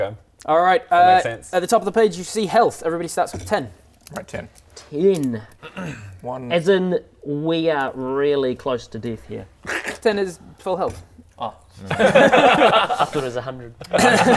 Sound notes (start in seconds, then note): 12.1 squishy laughs